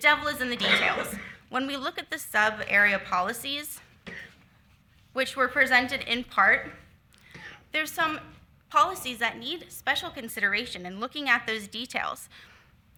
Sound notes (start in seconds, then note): 0.4 attendee coughing